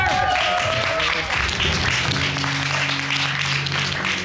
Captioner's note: audience clapping